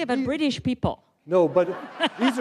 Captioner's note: laughter